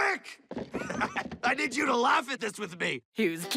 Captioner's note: chuckling